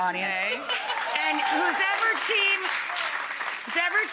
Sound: audience cheering

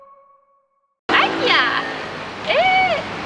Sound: Taiwanese

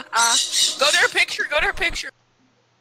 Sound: screeching again

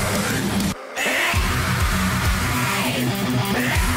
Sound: 🦁roar

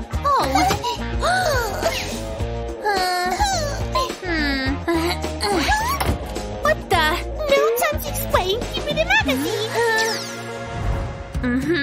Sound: groans

